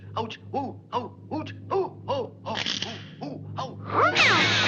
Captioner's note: growls